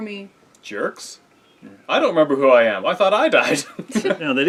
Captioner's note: laughing